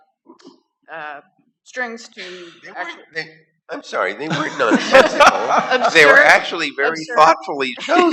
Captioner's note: laughter